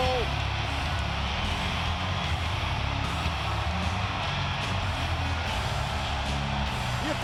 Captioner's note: crowd cheering continues; upbeat rock music continues